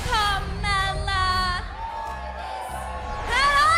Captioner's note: crowd cheering